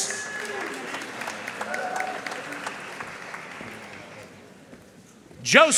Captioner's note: audience cheering and applauding